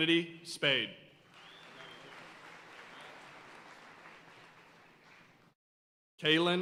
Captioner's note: audience cheering and applauding